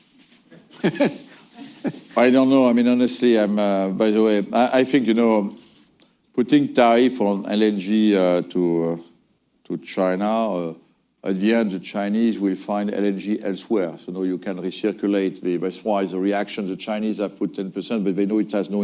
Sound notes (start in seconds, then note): 0.6 laughs